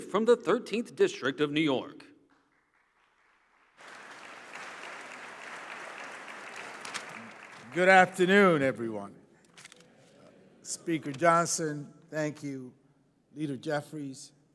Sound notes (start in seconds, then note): 6.8 applause